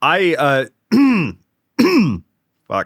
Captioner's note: clears throat